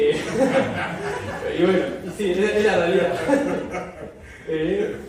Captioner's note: laugther; laugther